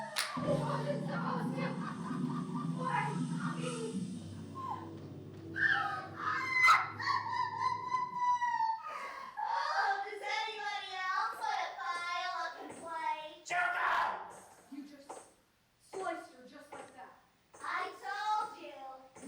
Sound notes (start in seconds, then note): 5.6 MONOKUMA laughs maniacally